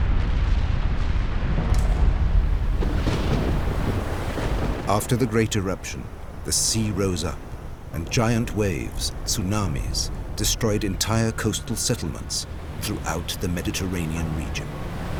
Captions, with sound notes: [thunder crashing] After the great eruption, the sea rose up and giant waves, tsunamis, destroyed entire coastal settlements throughout the Mediterranean region.